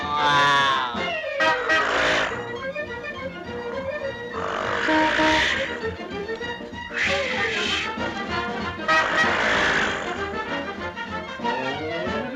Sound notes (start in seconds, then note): 0.0 Olive screams; 1.2 horn honks; 9.1 horn honks; 12.1 bright dramatic music